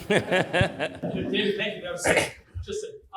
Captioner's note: laughs